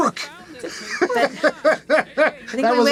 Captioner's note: laughing